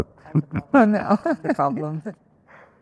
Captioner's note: laughs